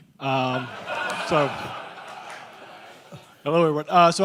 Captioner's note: crowd laughter